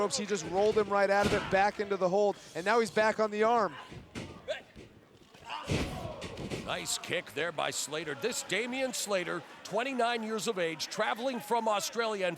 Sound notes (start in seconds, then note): 5.6 thudding